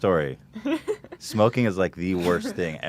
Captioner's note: laughs